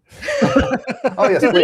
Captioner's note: laughter